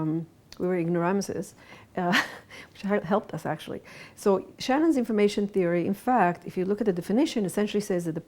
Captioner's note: chuckles